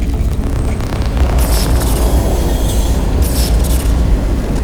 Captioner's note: electric lightning